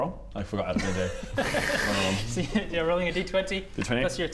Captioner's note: laughs